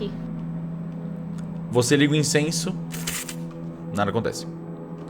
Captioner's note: bzzbzz